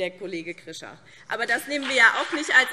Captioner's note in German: Beifall BÜNDNIS 90/DIE GRÜNEN und vereinzelt CDU